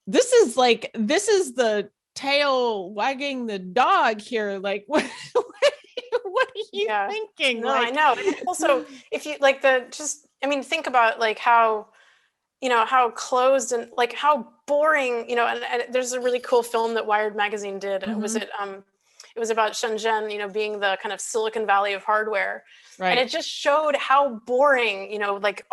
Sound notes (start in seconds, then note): 5.3 laughing